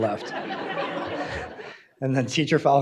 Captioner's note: audience laughing